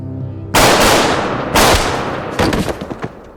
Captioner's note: gun firing; body thudding